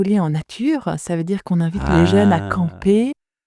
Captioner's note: ahhhh